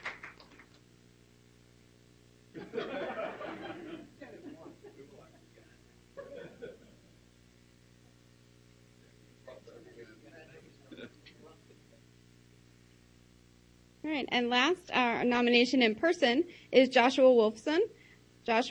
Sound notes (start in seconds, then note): 2.6 laughing